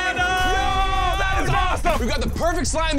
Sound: cheering

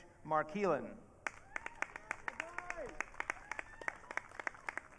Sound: audience cheering

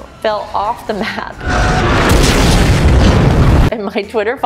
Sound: plane crash sounds; zooooom

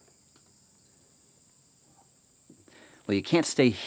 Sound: insects chirping

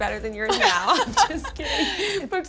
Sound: laughing

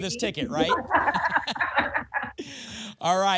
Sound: laughter

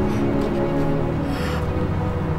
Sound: emma blows warm air

